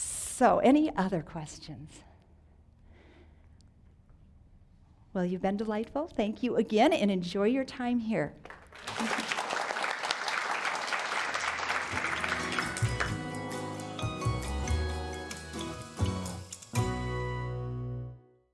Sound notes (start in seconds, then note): 8.5 audience applauding; 14.8 upbeat music